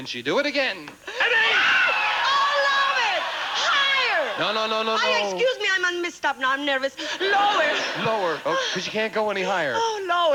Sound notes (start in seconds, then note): 1.1 audience cheering; 7.0 audience laughing